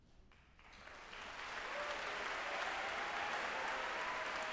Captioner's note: audience applauding